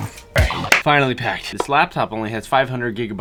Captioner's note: upbeat techno music; clap